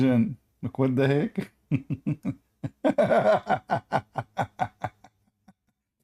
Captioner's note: Ketawa